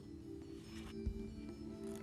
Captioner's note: beeping